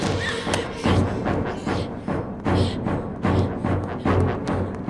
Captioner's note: breathing heavily